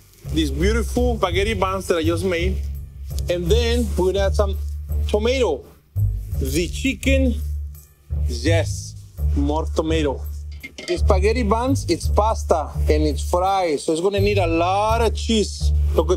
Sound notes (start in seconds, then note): 10.5 pan clangs softly